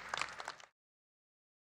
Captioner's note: applause